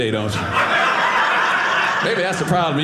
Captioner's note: audience laughing